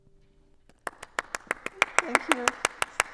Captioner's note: claps